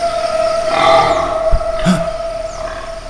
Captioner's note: pig - oink